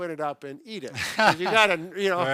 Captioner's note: laughs